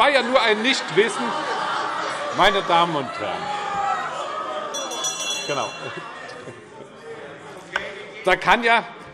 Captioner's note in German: Lachen - Anhaltende Unruhe - Glockenzeichen